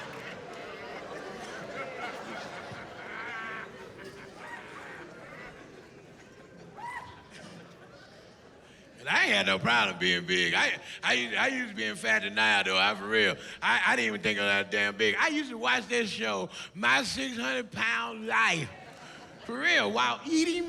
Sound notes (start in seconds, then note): 8.2 laughs